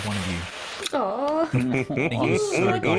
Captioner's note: chuckles